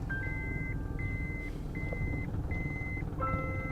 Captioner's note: car rumbling, beeping